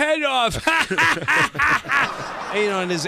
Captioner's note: fake laughing